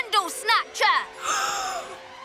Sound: gasps

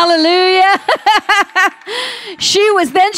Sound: laughs

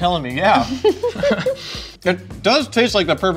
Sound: laughing

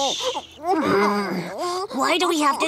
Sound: Blinky grunting

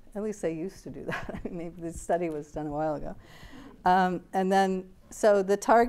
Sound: laughs

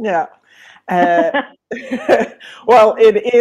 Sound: laughing

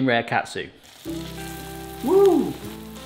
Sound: oil sizzling; light gentle music

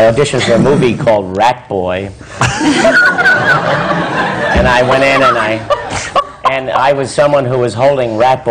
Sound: laughter

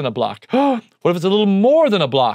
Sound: gasps

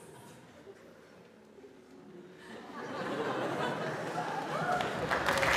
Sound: audience laughs

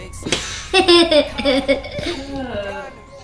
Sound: laughing

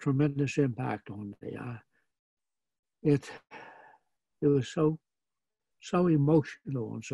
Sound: exhales

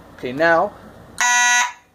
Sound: horn blast

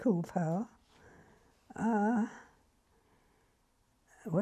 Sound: pauses for 3 seconds

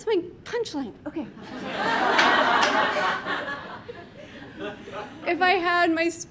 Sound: audience laughing and clapping

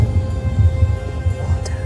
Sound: whispers

